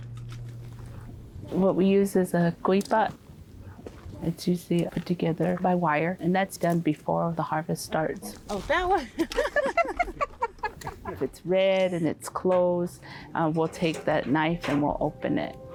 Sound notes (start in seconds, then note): 8.7 laughing